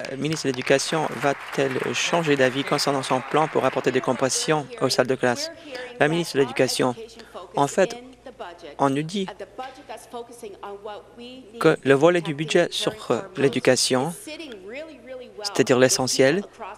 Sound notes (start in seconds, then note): 5.1 applause